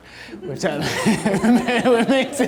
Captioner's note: audience laughter